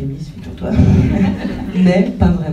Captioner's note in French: rires